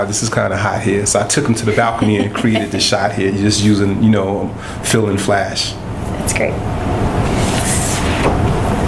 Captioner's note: laughter